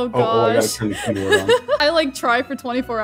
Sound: laughs

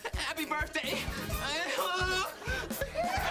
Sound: sobbing

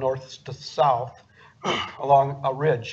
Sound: clears throat

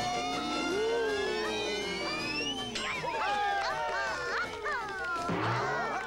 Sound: crowd cheers

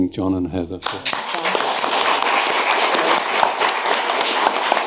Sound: applause

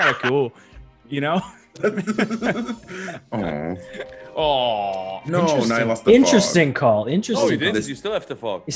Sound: laugh

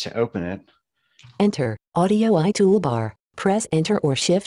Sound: automated Voice

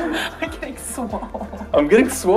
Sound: laughing

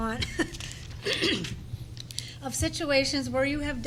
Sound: laughs

